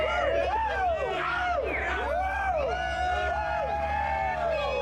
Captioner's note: gang cheering